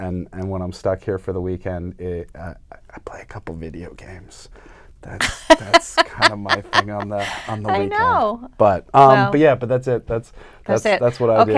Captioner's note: whispers; laughs